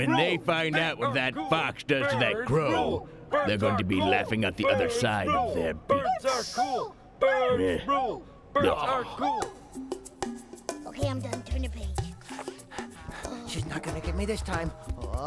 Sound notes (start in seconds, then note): 8.5 grunts in exasperation